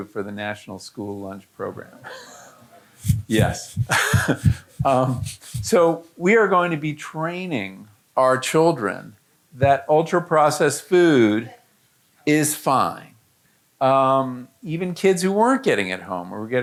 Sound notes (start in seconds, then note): 2.5 audience groaning